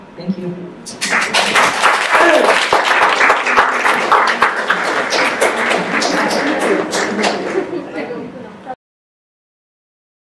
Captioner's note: applause